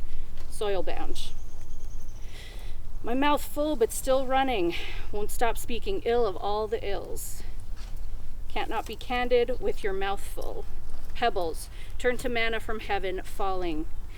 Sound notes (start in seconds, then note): none